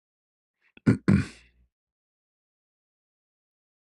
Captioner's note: berdehem